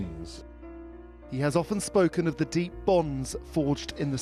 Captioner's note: voiceover